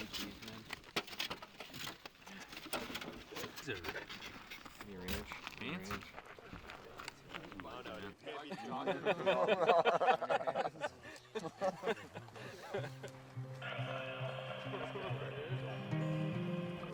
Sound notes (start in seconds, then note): 8.5 crew laughing; 12.7 soft acoustic guitar music